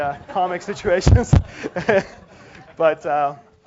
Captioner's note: laugh